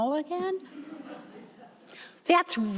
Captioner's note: audience members laughing